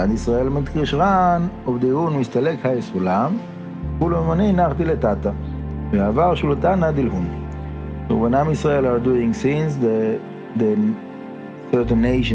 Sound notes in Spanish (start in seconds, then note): 3.2 arameo